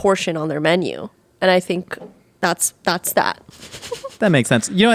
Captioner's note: laughing